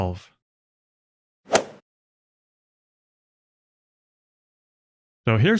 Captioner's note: golf ball hit sound